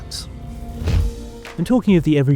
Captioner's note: transition whooshes